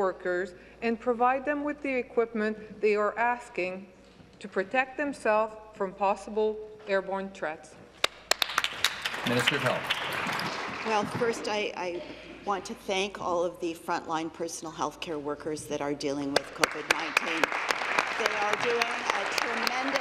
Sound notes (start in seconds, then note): 11.6 applause